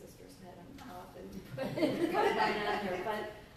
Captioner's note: laughter